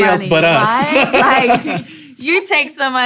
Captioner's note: laughing